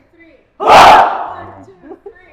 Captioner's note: shouts